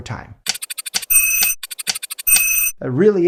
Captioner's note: clock ticking